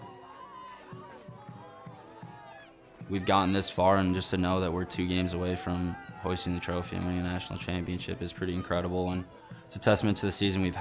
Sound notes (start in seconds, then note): 2.0 crowd cheering